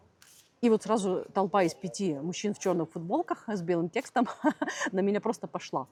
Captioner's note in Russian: смех